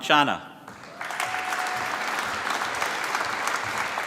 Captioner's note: applause